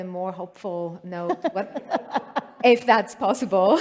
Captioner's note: laughter